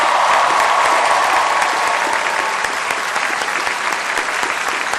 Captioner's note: applause